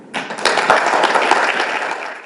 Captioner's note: applause